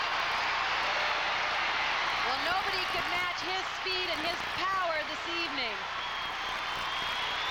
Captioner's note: applause